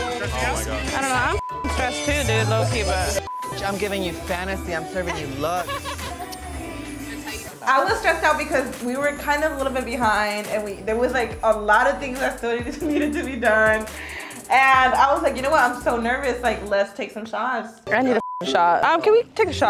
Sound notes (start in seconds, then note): 3.2 beep; 5.0 a woman laughing; 17.9 beep